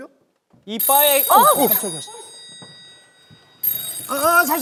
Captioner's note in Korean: 전화벨 소리